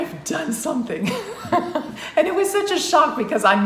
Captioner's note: laughs